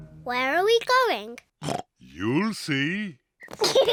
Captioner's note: oinks; kids giggle